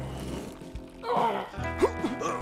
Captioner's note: groaning